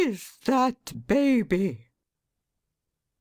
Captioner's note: A pause